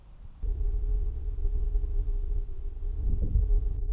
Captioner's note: air whooshing